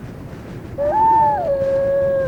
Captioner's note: wolf howling